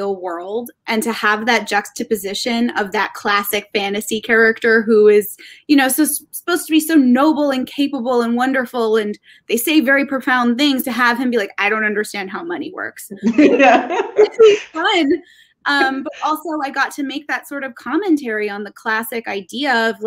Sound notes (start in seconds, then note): 13.2 laughing